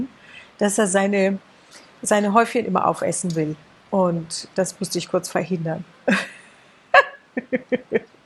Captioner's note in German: gelächter